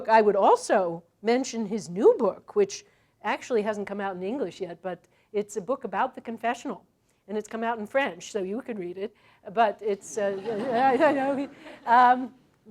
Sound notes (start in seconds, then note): 10.0 laughter